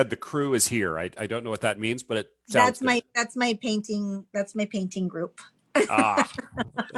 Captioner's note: laughs